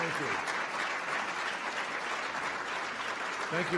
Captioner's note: applause